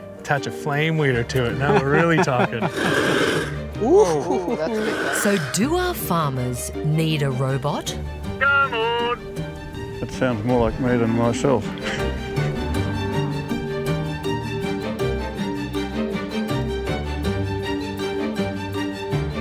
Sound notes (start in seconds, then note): 2.6 flames hiss; 3.8 all exclaim; 8.7 with australian accent